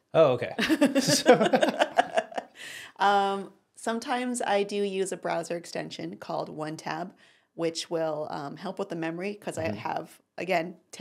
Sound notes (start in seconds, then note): 0.6 both laugh